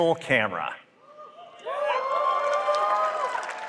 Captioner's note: applause